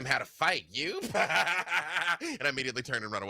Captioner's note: laughs